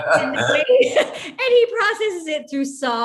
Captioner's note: laughs